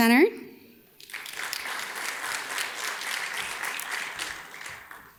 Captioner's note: audience claps